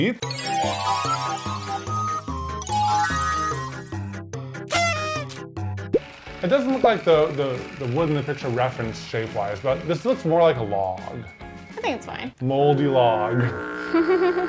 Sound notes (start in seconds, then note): 0.1 playful upbeat music; 4.6 noise maker whistling